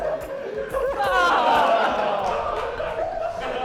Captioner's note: sounds of disgust and laughter